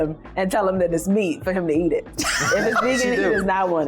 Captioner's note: laughs